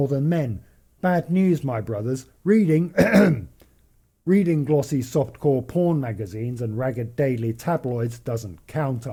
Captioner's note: ahem